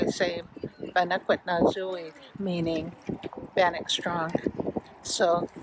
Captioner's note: speaking Bannock